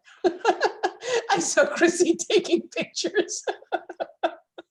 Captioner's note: laughs